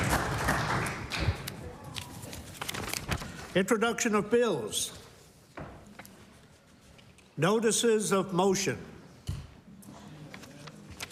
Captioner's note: applause